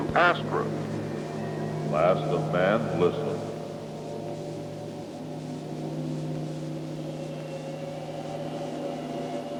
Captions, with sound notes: ASTRA! - [Disembodied Voice] Last of man, listen. (eerie instrumental music)